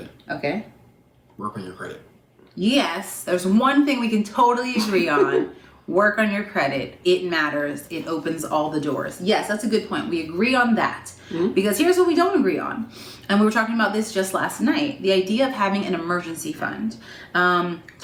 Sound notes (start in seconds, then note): 4.7 giggling